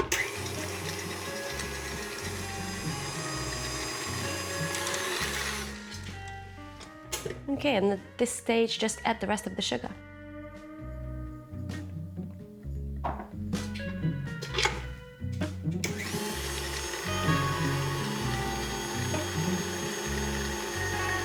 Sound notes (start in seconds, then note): 0.0 mixer whirring; 5.7 mixer stops; 15.8 mixer whirring